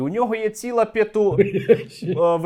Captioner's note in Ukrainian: сміх